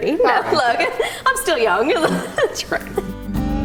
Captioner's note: laughing